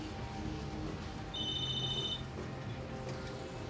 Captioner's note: cell phone ringing